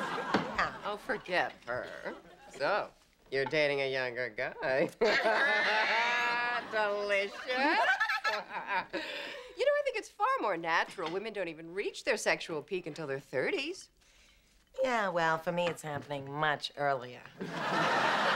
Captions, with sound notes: -Yeah. -Oh, forget her. So, you're dating a younger guy. ( both laugh ) Delicious. ( Fran giggles ) You know, I think it's far more natural, women don't even reach their sexual peak until their 30s. Yeah, well for me, it's happening much earlier.